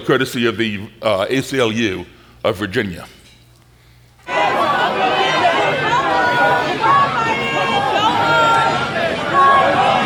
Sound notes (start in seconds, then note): 4.5 shouting